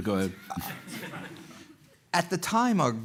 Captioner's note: laughter